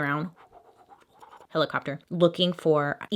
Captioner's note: imitating helicopter